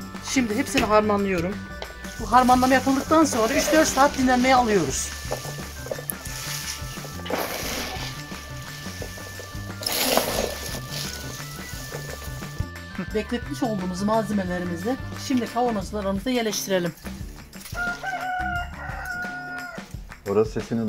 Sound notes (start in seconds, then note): 17.7 rooster sound